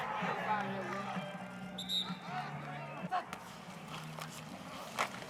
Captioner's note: whistle blowing